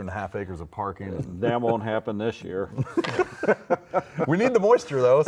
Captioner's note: laughing